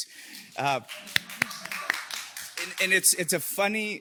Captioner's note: audience applauding